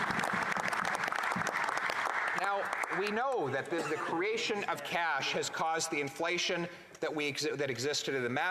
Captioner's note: some Applause